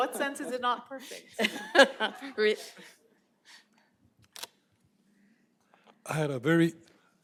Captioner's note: laughter